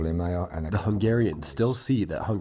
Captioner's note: through translator